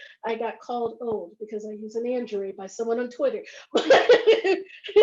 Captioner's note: laughs